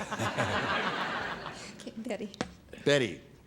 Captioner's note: laughter